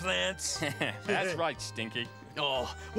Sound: chuckles

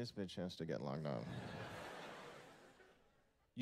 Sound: laughter

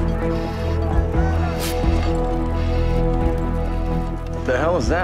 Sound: Velcro snaps

